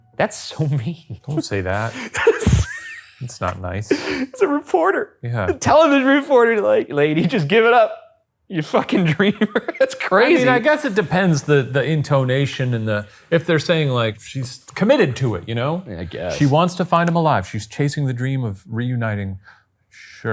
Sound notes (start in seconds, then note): 1.0 laughing